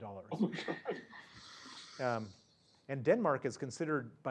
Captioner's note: laugh